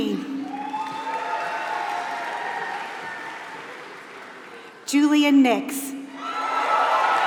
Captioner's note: applause; applause